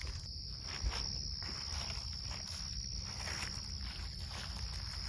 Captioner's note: feet crunching